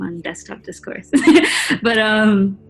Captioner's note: laughs